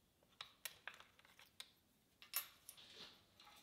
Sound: metal clinking

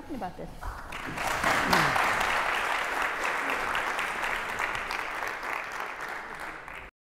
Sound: applause

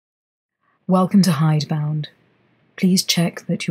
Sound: none

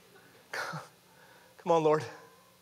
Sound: chuckling

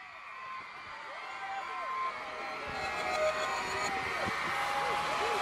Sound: crowd screaming

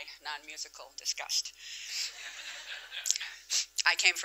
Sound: laughter

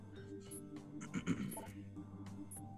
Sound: cough

